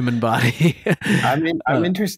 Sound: laughter

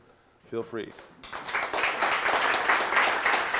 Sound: applause

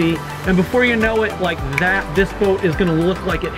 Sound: snaps fingers

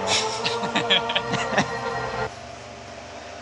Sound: laughing

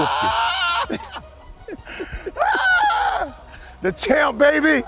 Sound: laughter

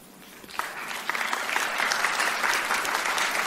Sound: applause

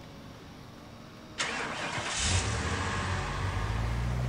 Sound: engine starting

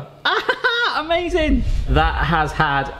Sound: laughs

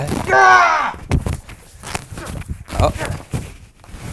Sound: grunts

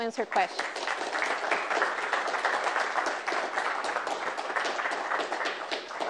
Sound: applause

